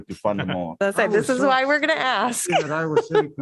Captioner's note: laughter